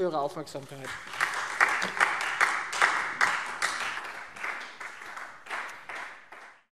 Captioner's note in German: Beifall Freie Demokraten